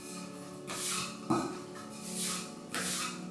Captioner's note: hand scrapes